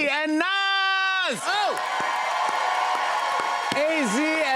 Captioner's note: cheers and applause